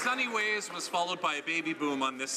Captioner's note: some Applause